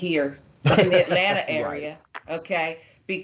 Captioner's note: laugh